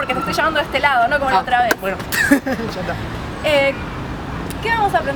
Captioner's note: laughs